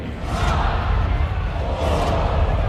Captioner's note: crowd chants count down